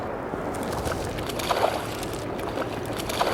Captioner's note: repeated splashing